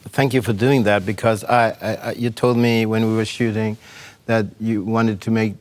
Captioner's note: none